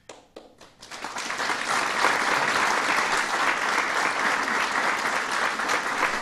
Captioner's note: applause